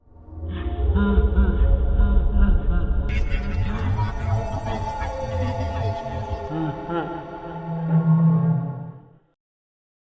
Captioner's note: Creepy ambiance, Freddy laughing, garbled speech